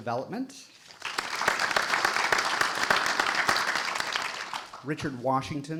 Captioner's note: audience applauding